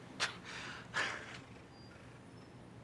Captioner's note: laughs